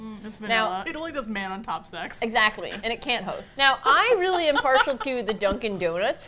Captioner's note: laughs